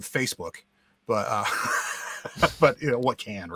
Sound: guy laughs

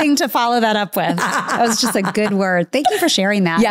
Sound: laughing

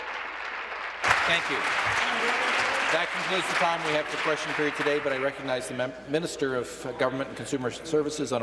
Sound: applause

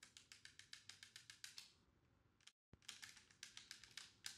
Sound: keys tapping

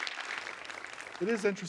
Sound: applause

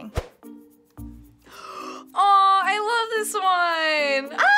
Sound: gasps

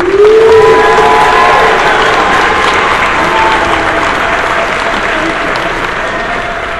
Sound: cheering

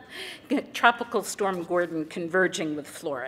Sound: laughter

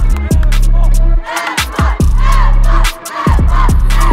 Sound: cheering

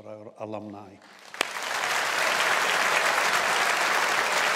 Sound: audience applauds

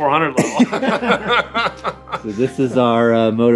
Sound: both chuckling

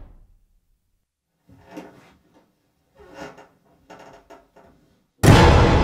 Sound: squeaking Footsteps

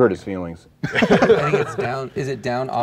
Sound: laughing

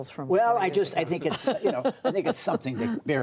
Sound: laughter

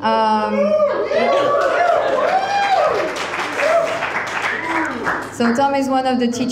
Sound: crowd cheering; crowd applauding

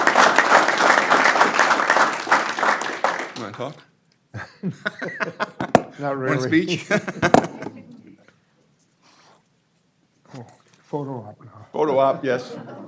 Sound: applause

